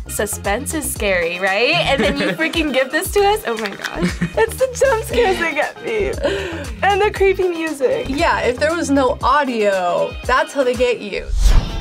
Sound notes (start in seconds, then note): 3.6 laughs